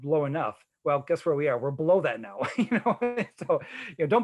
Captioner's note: chuckling